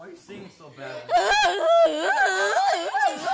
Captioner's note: voice Crack